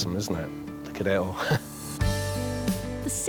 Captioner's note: chuckles